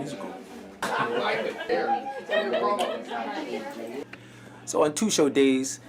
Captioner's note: people chattering